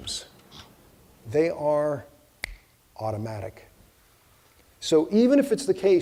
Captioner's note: snapping fingers